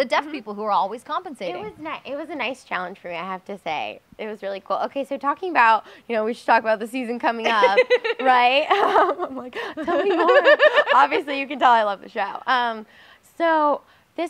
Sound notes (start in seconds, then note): 7.4 giggle